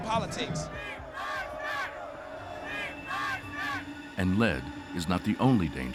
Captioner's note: chanting